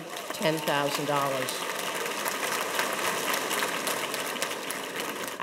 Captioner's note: audience applauding